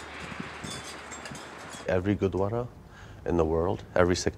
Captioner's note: wind rushing; metal clinking